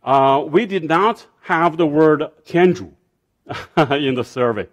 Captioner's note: speaking foreign language